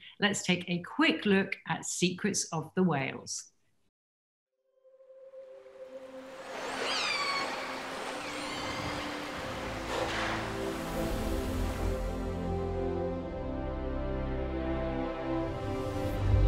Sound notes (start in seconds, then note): 5.4 soft music; 6.2 whales singing